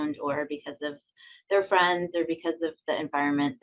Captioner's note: none